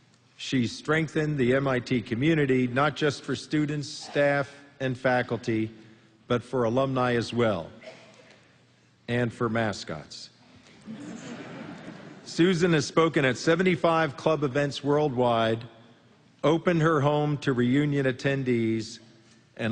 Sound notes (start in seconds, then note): 10.8 laughter